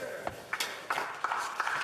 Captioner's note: applause